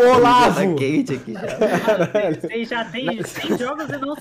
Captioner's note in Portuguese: risos